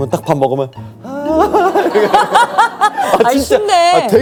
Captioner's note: giggles happily